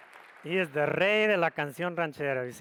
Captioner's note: speaks foreign language